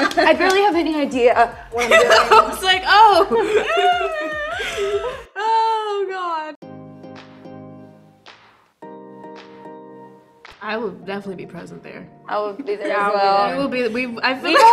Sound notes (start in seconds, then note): 0.0 Myha'la laughs; 4.5 Myha'la gasps